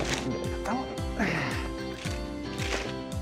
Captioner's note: mutters